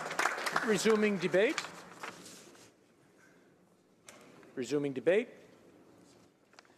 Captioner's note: applause